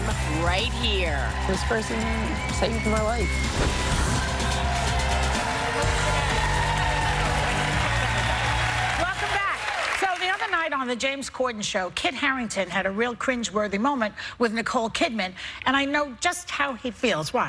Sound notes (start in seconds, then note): 8.1 cheers and applause